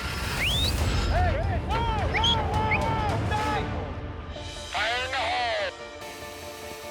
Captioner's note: motor squeaking; whistling